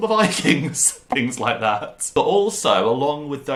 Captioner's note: laugh; laughing